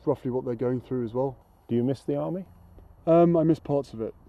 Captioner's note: voiceover